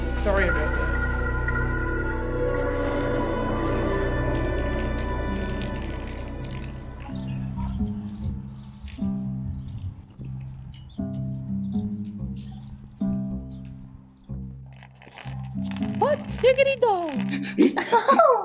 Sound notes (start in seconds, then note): 1.6 dramatic music; 3.4 cane scraping on pavement; 8.3 mellow music; 14.6 cane scraping